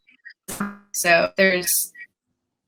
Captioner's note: glitch